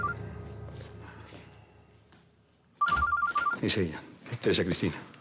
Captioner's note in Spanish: Suena el teléfono